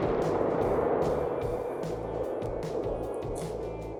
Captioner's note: gunshot